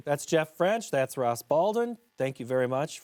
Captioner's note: French